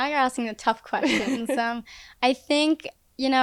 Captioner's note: laughing